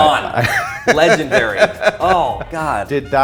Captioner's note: laughs